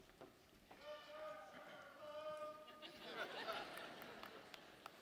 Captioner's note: audience member shouting